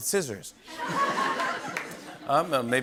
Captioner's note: laughter